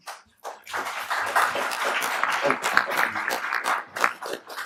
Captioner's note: applauding